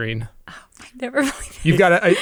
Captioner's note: chuckles